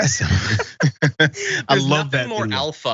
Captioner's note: laugh